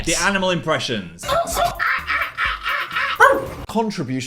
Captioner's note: monkey noises